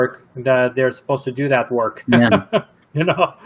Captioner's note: chuckles